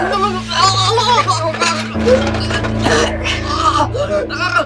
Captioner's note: tray rattling